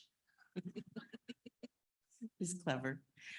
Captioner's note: laughs